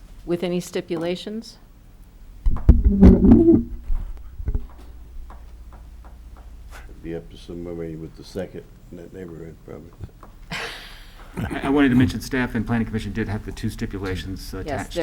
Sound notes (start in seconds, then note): 10.5 laughter